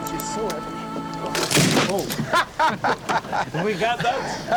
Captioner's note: laughter